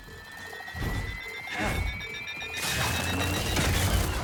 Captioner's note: gunshots